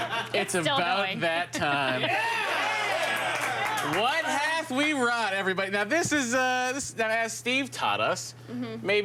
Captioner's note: applause